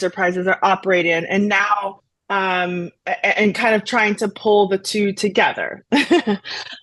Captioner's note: laughs